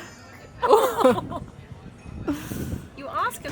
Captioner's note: laughing